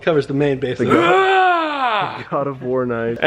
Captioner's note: screaming